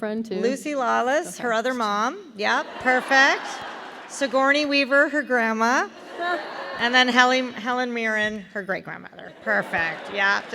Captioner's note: laughter